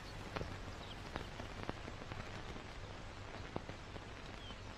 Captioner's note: birds chirping